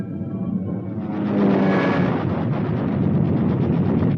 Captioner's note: guns firing